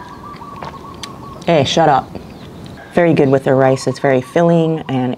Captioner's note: roosters crowing